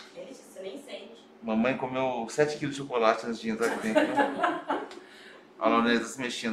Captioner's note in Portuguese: risos